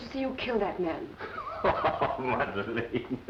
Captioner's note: laughing